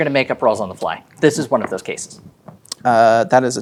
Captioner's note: dice rolling